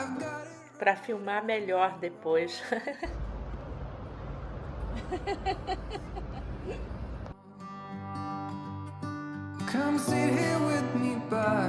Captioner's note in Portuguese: risos